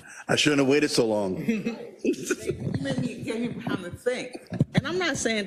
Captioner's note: laugh